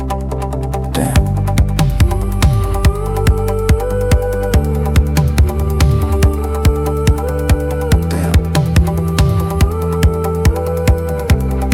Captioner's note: hum